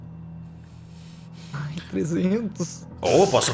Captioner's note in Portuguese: risada